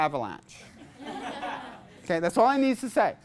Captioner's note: class laughs